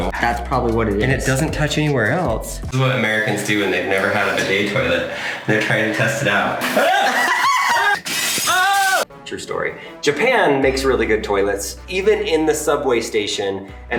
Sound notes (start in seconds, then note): 6.6 screaming